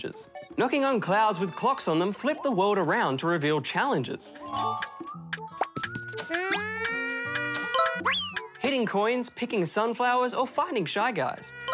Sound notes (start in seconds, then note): none